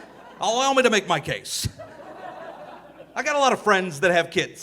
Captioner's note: audience laughing